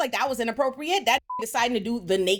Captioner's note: beep